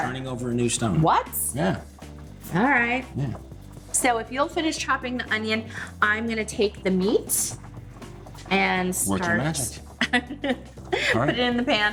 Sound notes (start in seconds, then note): 9.9 laughs